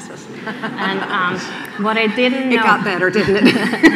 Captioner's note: laughing